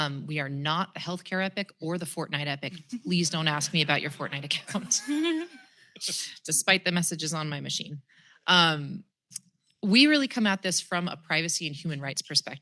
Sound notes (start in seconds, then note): 5.2 laughter